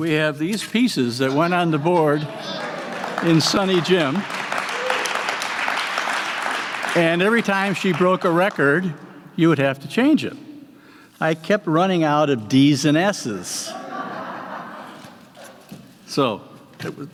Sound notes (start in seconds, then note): 5.5 applause; 15.2 laughter